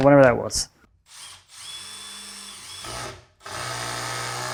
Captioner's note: drill drilling